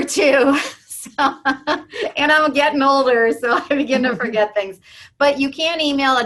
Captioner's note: laugh